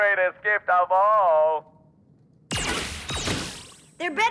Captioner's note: zapping